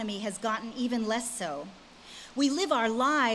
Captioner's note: none